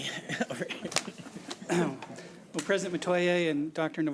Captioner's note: laughing